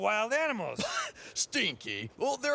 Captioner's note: laughs